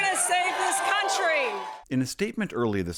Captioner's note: cheering and applause